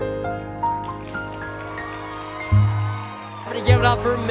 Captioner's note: applause